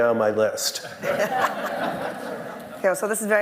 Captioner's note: laughter